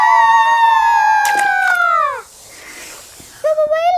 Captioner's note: kingfisher slurps